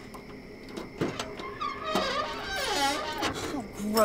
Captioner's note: trunk lid creaking